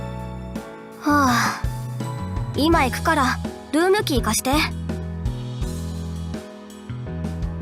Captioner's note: sigh